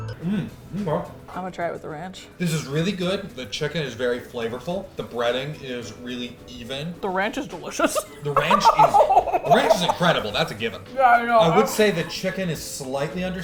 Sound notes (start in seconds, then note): 8.3 laughs